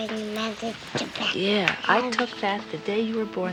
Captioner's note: Janey babbles